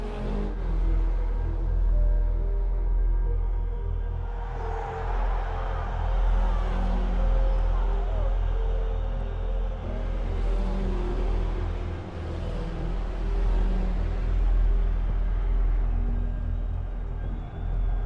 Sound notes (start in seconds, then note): 0.3 car engine roaring; 4.2 crowd cheering; 9.4 car engine roaring